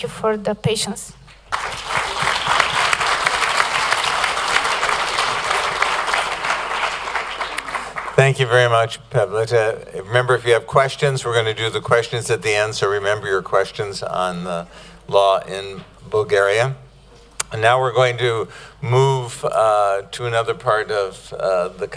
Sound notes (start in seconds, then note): 1.4 applause